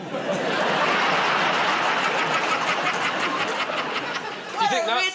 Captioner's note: laughter